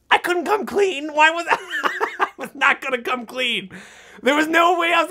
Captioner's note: laughs